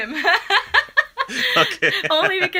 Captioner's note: laughter